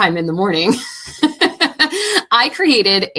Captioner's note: laughing